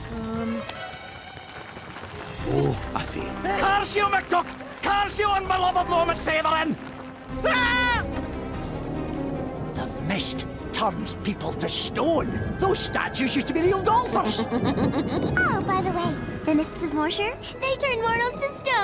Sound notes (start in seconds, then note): 14.2 sinister laughter